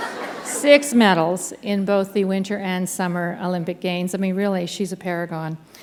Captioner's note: laughter